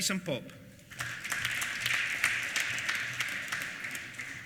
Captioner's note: applause